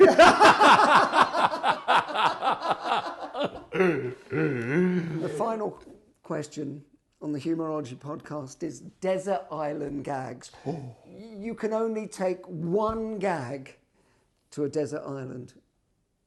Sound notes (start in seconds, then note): 0.0 Ainsley and Paul laughing; 10.5 Ainsley gasping